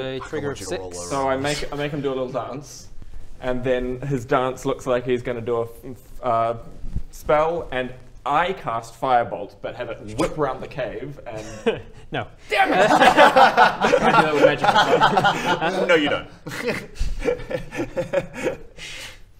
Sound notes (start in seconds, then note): 16.4 unpitying laughter